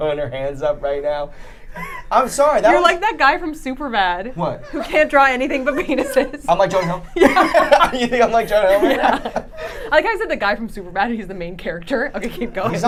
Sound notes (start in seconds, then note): 7.8 laughing